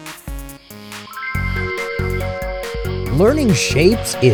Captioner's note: twinkling